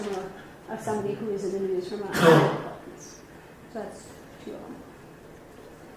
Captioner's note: coughing